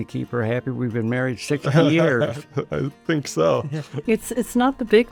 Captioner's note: laughing